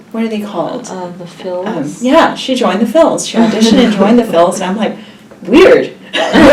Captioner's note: all laugh; all laugh